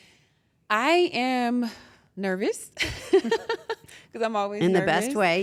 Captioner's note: laugh